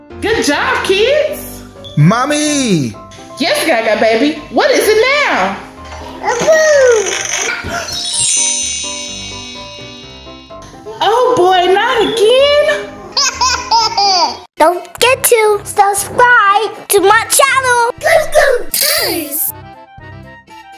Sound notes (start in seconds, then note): 13.2 laughing